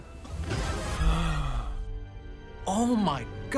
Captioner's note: gasps